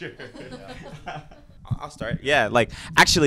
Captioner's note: laughs; cast laughing